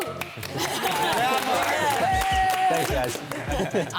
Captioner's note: participants cheering